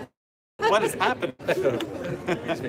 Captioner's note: laughter